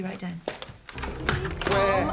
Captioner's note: receiver clattering